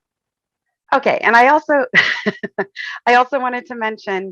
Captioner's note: chuckles